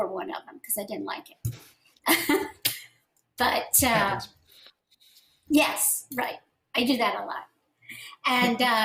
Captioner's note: laughter